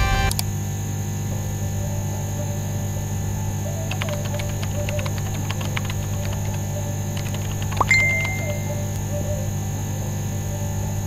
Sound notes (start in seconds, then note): 3.6 typing on keyboard